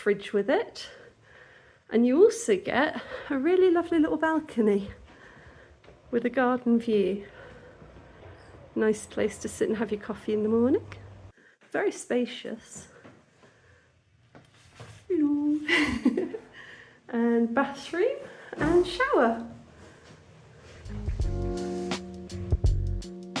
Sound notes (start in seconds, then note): 15.7 laughing; 20.8 chill music